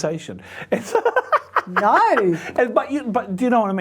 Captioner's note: laughs